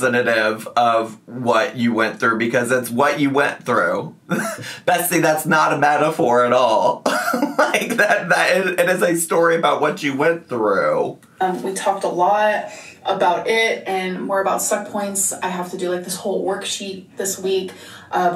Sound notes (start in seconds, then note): 7.1 laughs